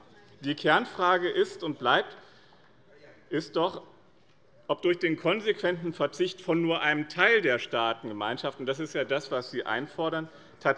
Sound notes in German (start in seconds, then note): none